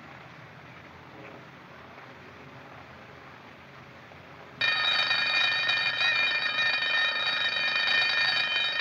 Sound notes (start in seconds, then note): 4.6 ringing Resumes